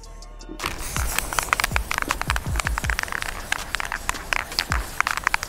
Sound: spray can clicking

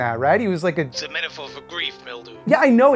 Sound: Bobby, over the phone

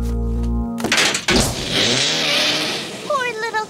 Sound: doors bang; engine revving

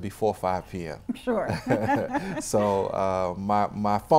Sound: laughing

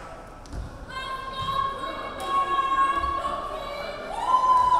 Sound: players chanting

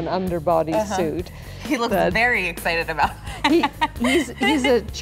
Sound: laughs

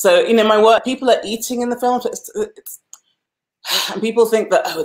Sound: sighs

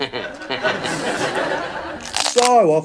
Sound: person laughs; pickle crunches

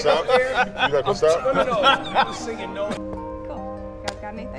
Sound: man laughing

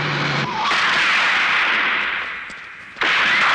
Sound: gunshot

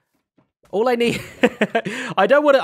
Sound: laughs

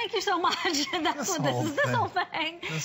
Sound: laughter

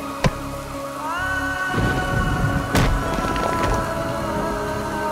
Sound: sombre music playing; sirens playing

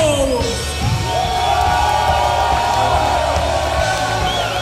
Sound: crowd cheering

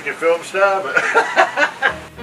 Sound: laughter

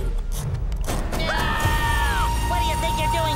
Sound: screaming

